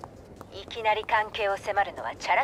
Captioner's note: none